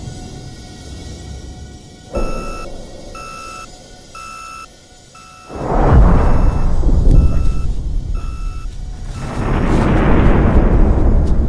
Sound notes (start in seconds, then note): 1.9 loud beeping; 8.9 loud boom